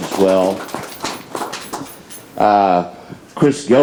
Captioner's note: audience applauds